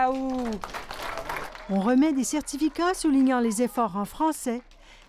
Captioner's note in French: applaudissements